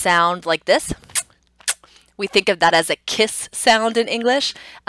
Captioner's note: makes a kissing sound